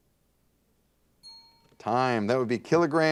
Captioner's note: bell rings